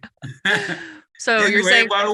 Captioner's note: laughs